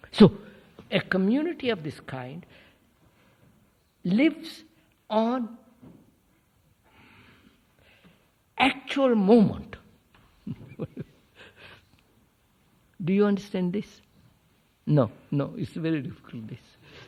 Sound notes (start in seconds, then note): 10.4 laughs